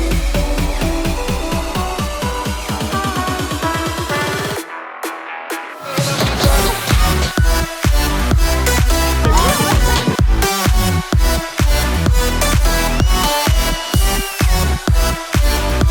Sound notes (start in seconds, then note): 6.3 group splashes; 9.4 girls scream; 12.7 upbeat music